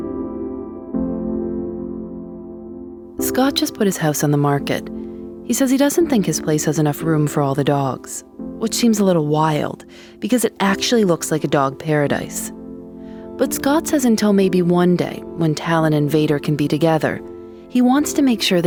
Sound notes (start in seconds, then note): none